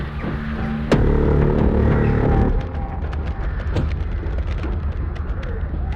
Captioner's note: wings flapping outside window